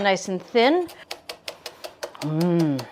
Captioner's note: knife tapping